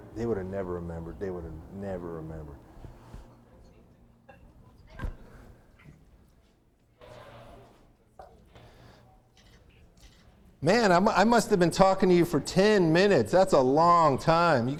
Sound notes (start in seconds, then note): none